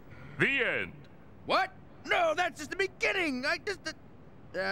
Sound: none

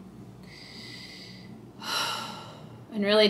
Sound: person sighs

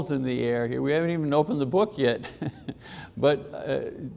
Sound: chuckling

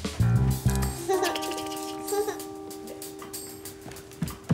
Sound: giggling

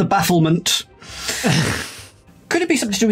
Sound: group snickering

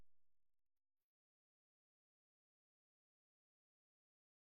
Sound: silence

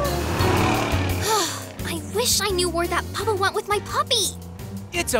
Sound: sighs

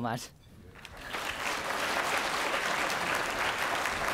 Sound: applause

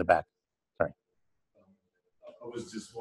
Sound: pause

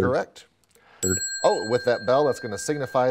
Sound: ding

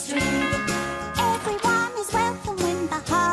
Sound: doorbell chimes

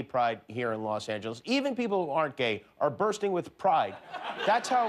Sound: laughter

